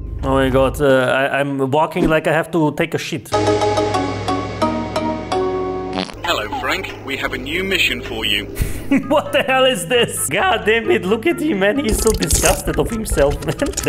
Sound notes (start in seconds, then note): 8.4 chuckles